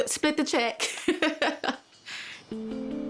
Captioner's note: chuckles; lighthearted music